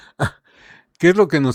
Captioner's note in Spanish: risas